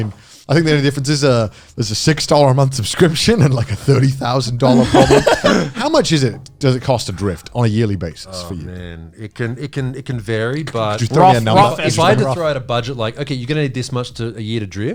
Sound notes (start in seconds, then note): 4.6 all laughing